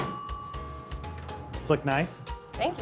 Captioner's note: bell dings